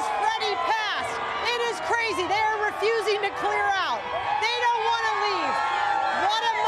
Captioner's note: cheering and applause